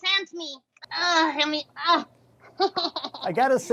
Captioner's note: laughs